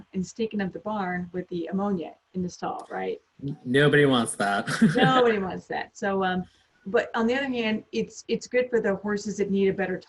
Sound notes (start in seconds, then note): 3.7 laughs